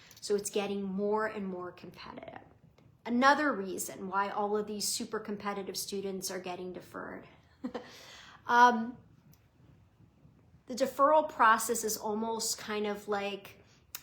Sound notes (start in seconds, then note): 7.6 laughing